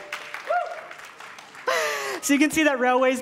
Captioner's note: cheer; applause